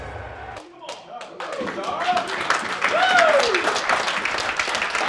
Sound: group applauding

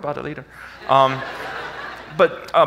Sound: audience laughs

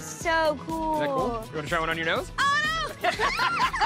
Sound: laughter

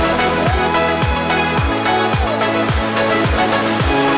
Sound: cheering

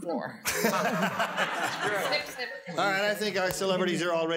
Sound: laughter

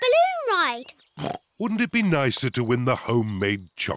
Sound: oinks

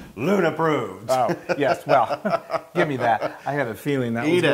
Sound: laugh

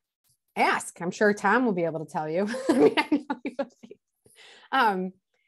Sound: laughs

